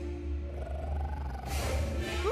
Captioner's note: growling